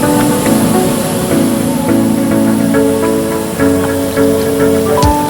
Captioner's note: waterfall sounds